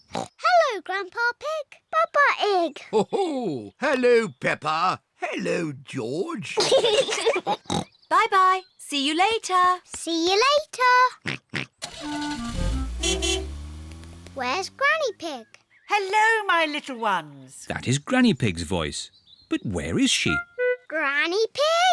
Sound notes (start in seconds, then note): 6.5 peppa and george giggle; 11.2 oinks; 11.8 horn beeps